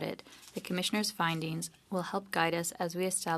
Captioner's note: speaking French